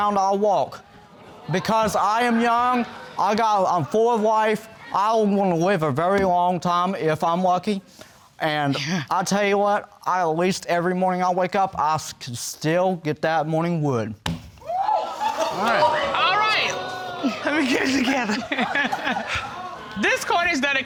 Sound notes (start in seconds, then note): 9.2 scoffs; 14.6 audience exclaiming; 18.3 laughing